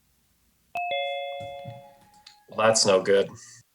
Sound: chiming

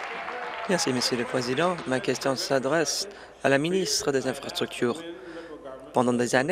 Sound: applause

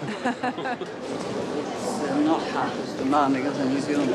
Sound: laughter

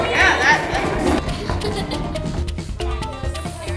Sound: laughing

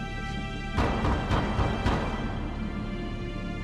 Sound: knocks

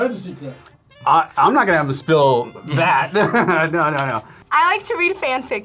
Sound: laughs

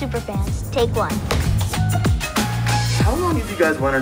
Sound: clapperboard claps

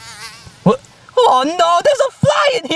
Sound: fly buzzing

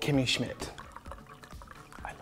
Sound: wine pours

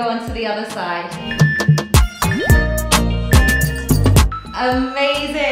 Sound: timer beeping

